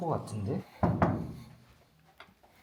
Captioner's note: knock, knock